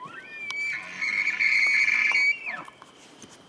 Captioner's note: elk bugles